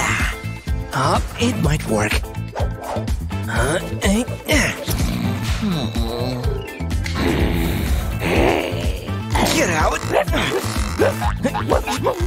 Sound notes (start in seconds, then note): 0.1 groans; 4.8 snoring; 5.4 roaring; 8.0 barks